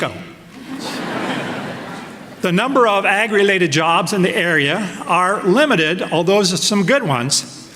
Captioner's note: laughter